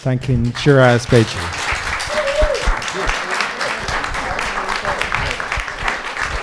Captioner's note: attendees applaud and cheer